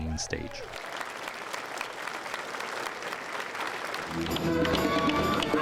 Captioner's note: applause